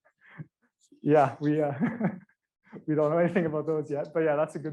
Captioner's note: laughs